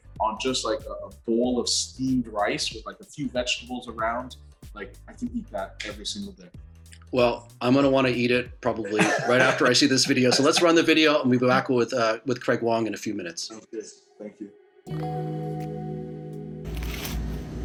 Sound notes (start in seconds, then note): 8.9 chuckles; 14.9 upbeat music